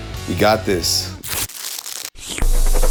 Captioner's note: plastic rips; crinkles; slurps